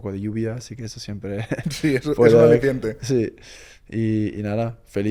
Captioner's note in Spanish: risas